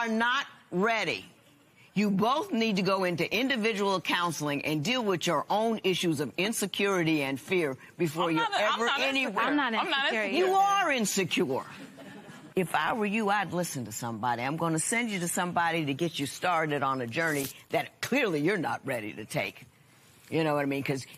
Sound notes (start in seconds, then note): 11.7 laughter